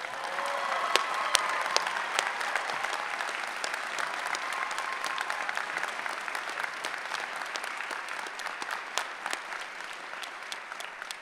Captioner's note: applause